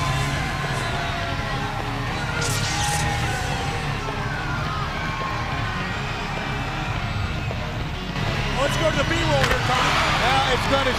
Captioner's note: crowd chatter